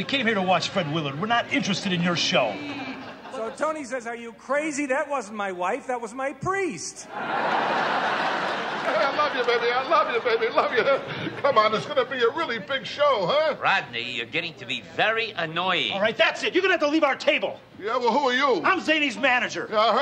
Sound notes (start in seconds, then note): 7.0 audience laughs